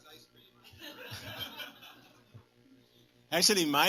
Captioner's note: laughter